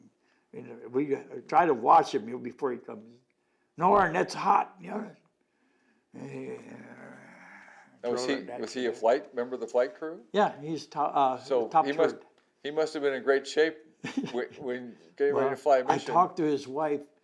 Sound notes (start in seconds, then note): 6.2 growling sounds